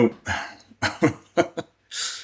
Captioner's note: laughs